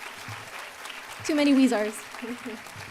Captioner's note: applause